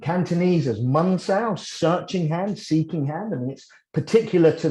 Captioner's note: Cantonese